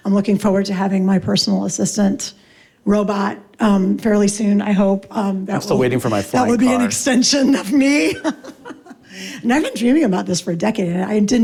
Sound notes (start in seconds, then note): 7.8 laughs